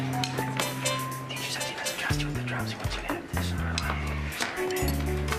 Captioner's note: whispering